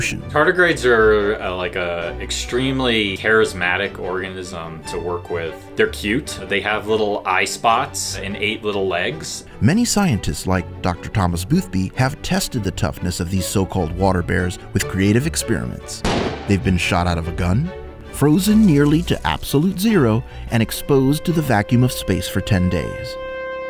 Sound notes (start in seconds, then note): 16.0 gunshot